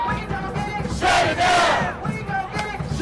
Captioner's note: chanting